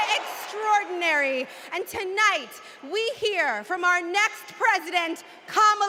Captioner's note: cheers and applause